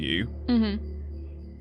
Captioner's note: chuckles